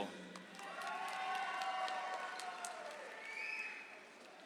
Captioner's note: audience applauds